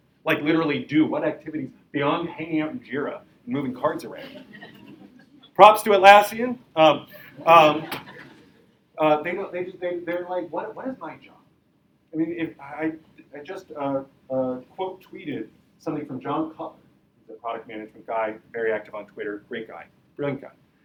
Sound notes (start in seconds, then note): 4.1 audience laughing